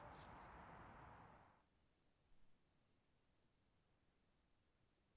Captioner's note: insects chirping